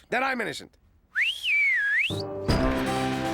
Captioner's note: whistles